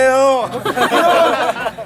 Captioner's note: laughs